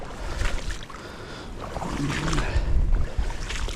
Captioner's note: water sloshing